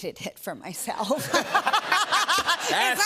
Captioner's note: laughter